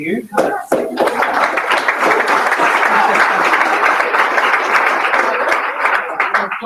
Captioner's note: applause